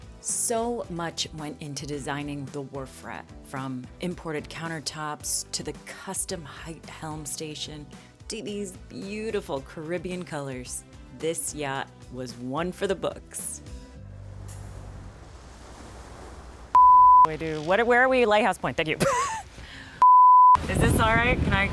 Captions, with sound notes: - So much went into designing the Wharf Rat from imported countertops to the custom height helm station to these beautiful Caribbean colors. This yacht was one for the books. (waves rumbling softly) (loud beep) I do what, where are we? Lighthouse Point, thank you. (strained laugh) (loud beep) Is this all right?